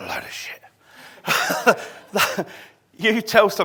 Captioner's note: laughing